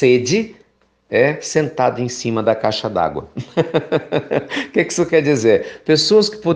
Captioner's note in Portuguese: risos